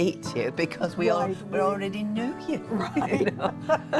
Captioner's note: laughs